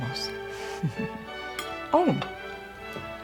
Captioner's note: Aunt Edna giggles